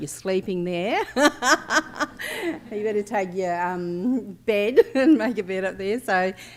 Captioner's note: laughs